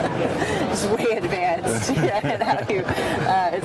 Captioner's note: laughter